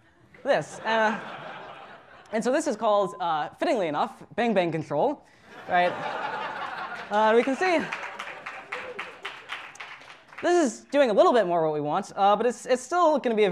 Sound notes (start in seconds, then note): 6.3 applause